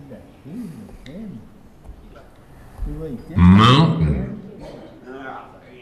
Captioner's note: computer voice